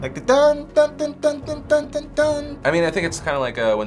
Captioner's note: hums song